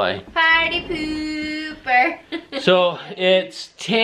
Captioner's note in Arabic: يضحك